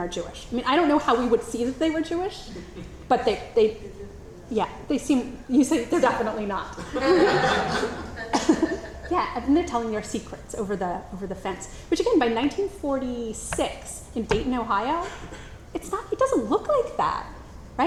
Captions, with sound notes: I mean, I don't know how we would see that they were Jewish, but they, yeah, they seem, you say, they're definitely not. (audience laughs) Yeah, and then they're telling their secrets over the fence, which, again, by 1946 in Dayton, Ohio, it's not, it doesn't look like that,